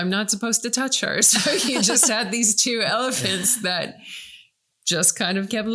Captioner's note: laughing